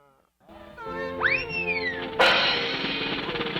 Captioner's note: cartoon whoosh; drumroll; cymbal crashes